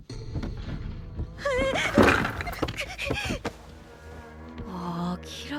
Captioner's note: kozakura heart attack noises